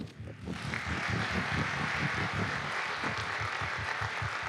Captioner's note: audience applauding